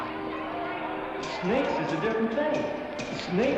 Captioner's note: Cass voiceover